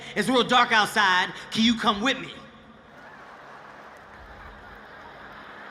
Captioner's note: audience laughing